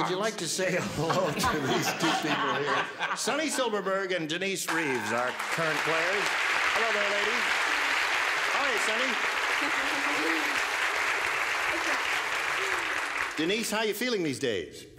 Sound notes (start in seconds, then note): 9.4 laughs; 10.3 applause